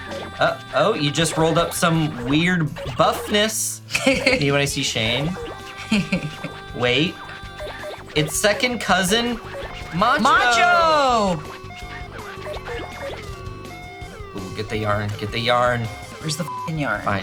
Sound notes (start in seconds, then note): 11.8 siren whooping; 16.5 beep